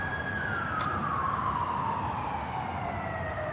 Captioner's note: siren wailing